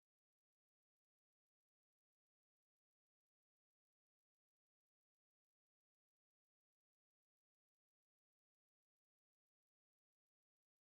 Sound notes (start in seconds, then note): none